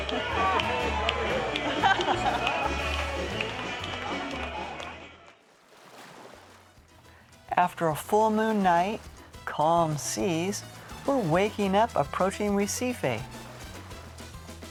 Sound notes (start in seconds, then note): 0.0 cheers and applause; 1.3 laughter; 3.2 cheers and applause